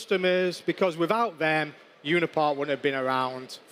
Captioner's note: applause